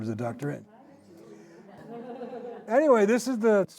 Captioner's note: indistinct chatter, laughter